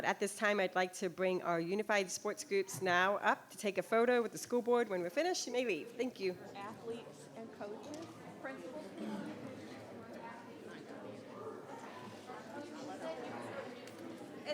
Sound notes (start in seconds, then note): 9.3 people chattering